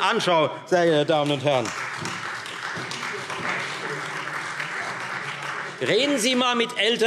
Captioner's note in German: Beifall